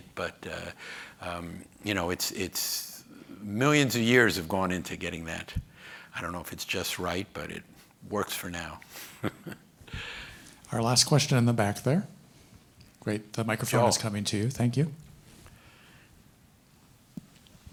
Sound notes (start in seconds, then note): 9.1 chuckles